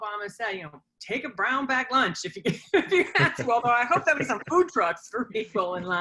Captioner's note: laughter